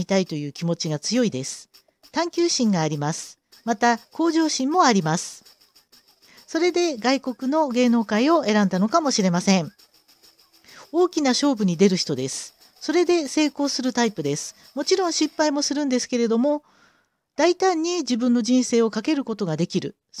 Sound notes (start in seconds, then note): 6.9 Korean